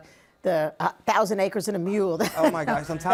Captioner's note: laughs